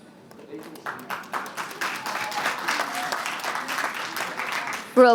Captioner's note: applause